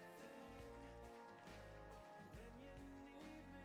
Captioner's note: applauding